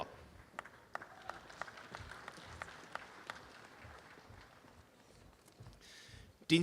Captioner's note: applause